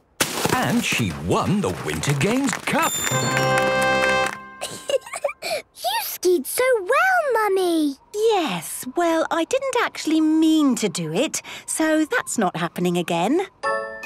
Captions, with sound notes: And she won the Winter Games Cup! (triumphant music) (giggling) - You skied so well, Mummy! - Yes, well, I didn't actually mean to do it, so that's not happening again.